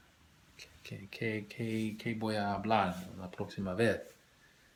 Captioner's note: spanish